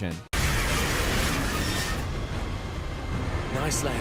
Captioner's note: plane screeching